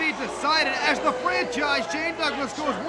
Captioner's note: crowd chatter